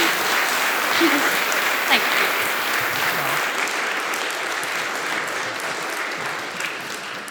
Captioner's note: applause